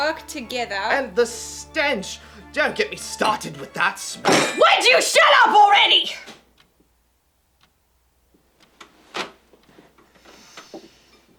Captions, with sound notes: ...can work together... --and the STENCH! Don't get me started with that smell-- [BANG] WOULD YOU SHUT UP ALREADY!? [Deep breath]